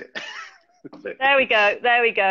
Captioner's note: laughing